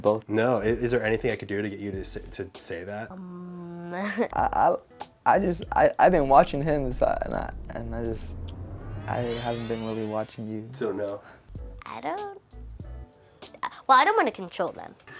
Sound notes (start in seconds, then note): 4.5 stutters